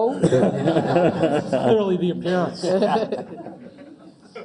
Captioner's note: laugh